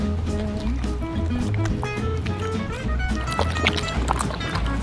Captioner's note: Flip chewing